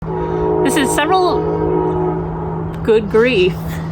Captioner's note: loud train horn